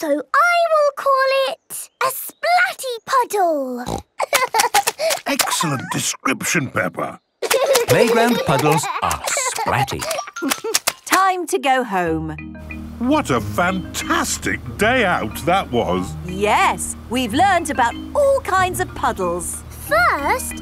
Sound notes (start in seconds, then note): 3.8 snorting; 4.2 giggling; 7.4 giggling